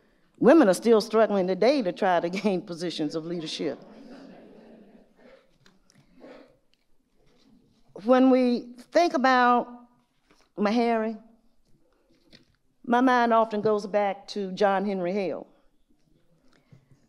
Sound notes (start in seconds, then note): 4.7 audience murmurs